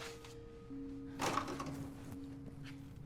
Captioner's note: door opens